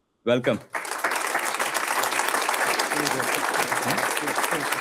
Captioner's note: audience applauds